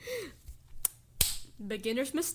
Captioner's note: clap; smack